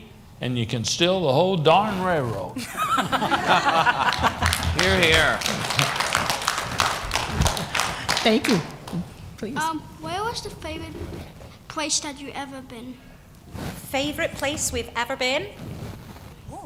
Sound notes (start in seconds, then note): 2.6 laughter; 5.9 applause